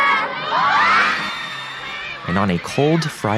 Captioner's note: women screaming